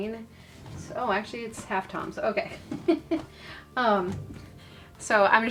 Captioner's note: chuckles